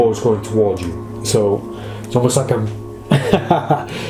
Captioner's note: laughs heartily